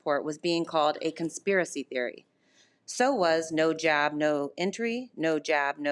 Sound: none

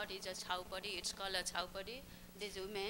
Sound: non-english speech

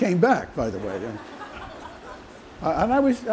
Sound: laughter

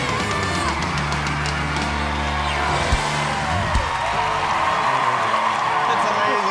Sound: cheers and applause

